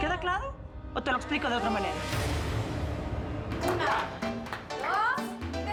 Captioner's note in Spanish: gritos y exclamaciones